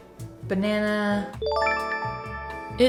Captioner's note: chime